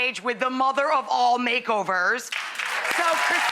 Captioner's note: audience applauds